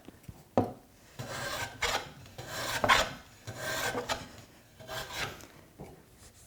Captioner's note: blade on wood rhythmically scraping